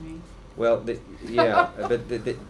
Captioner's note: laughter